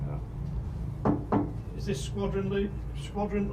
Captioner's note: loud knocking